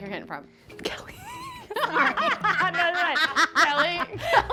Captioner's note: laughing